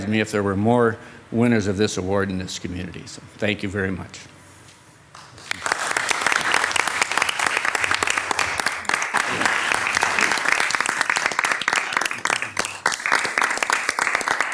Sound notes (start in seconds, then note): 5.1 participants applauding